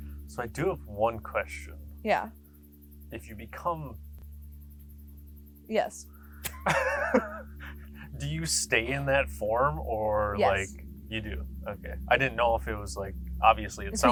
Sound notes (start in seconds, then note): 6.4 both laughing